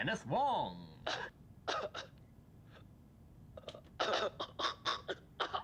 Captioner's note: cough track playing